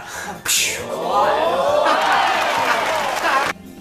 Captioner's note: idiotic laughter